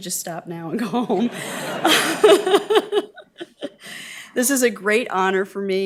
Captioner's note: laughing; audience laughing